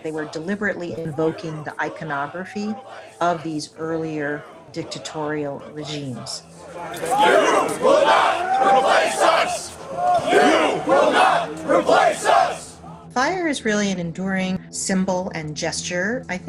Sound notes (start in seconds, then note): 7.1 crowd chanting